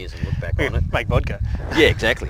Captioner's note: laughs